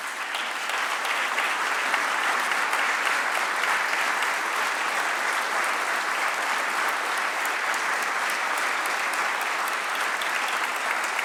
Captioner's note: applause